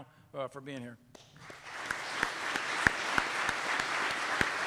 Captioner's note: audience clapping